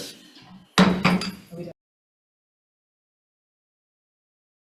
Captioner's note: gavel bangs